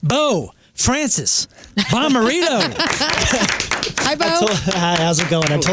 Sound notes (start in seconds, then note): 3.5 laughing